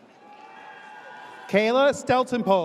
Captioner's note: audience cheers